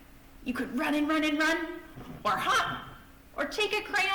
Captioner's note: bouncing